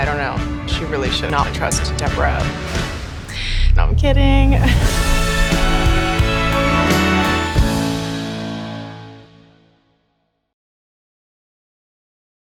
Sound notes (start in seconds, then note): 4.2 chuckles